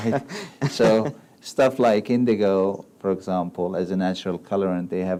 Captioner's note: laughs